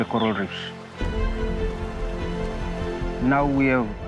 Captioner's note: natural sounds continue